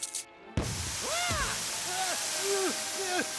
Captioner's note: click; swoosh!; spluttering